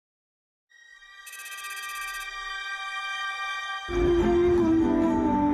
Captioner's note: tense music; text clicking